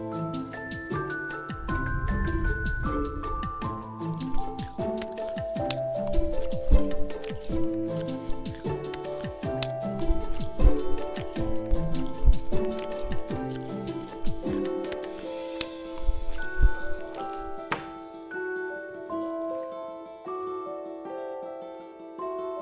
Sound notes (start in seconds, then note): 0.2 breathing sound; 4.8 someone chewing